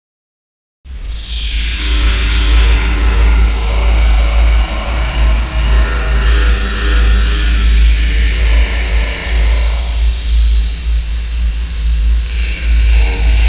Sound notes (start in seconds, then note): 0.0 creepy voice